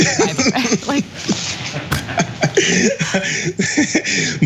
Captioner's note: laugh